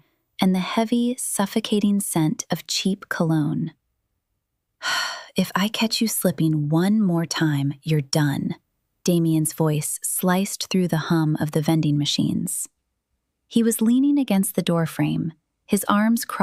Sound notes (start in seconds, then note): 4.9 sighs